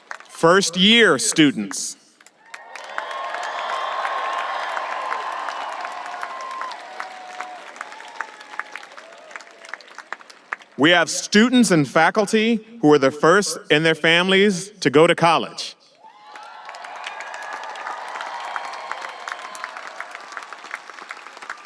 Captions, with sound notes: First year students. (audience applauding and cheering) We have students and faculty who are the first in their families to go to college. (audience applauding and cheering)